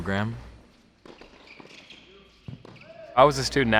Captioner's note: sneakers squeak